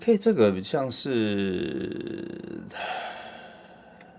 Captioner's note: sigh